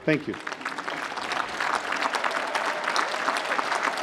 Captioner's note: applause